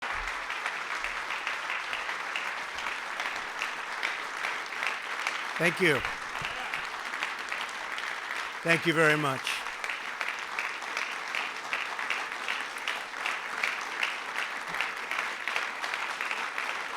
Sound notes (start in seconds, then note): 0.6 applause; 11.5 applause